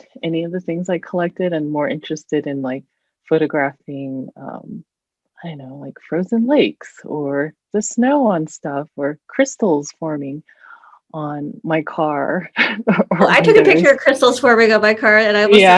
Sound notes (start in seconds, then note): 13.2 chuckles